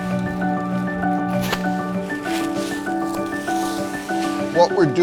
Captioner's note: wood clattering; leaves rustling